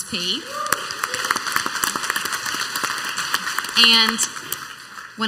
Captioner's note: clapping and cheering